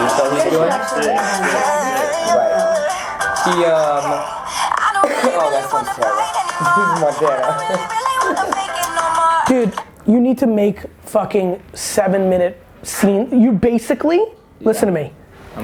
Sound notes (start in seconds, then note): 0.0 hip hop music playing; 7.5 laughing